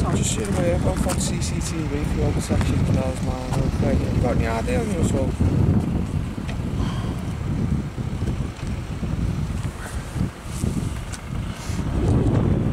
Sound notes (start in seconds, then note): 6.7 sighs; 7.7 wind noise